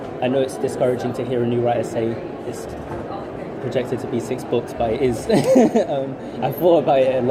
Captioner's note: laughs